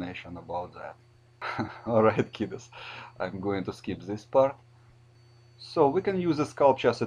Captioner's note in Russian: ха-ха